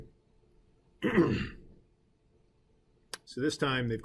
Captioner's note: clearing throat